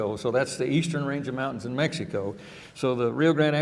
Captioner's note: none